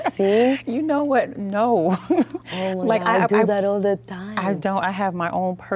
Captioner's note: laughs